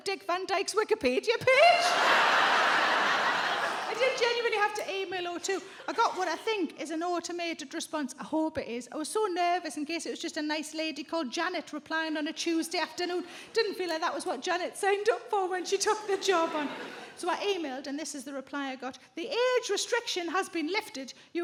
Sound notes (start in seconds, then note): 1.6 audience laughs; 1.7 chuckles